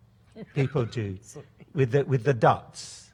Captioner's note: laughs